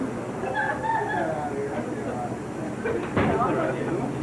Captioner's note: crowd laughs